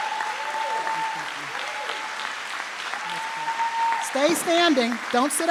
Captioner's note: trustees and audience applaud; faintly speaking